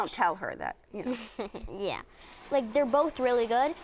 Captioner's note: laughs